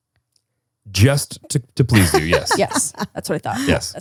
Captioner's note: laughs